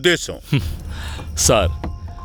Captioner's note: chuckles